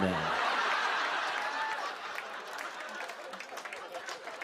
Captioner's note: laughter